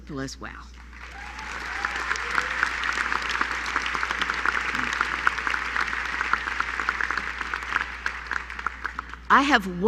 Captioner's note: applause